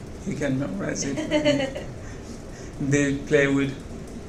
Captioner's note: laughing